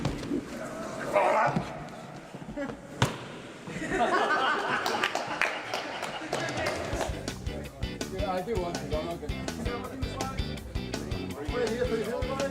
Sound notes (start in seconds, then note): 3.7 all laughing; 7.6 chattering